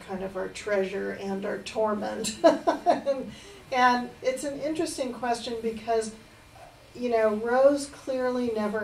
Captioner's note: laughs